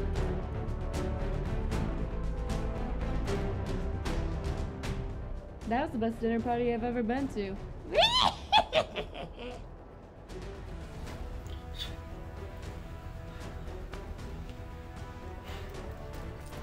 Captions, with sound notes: That was the best dinner party I've ever been to! *witch cackle*